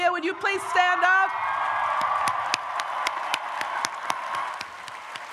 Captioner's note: audience applauds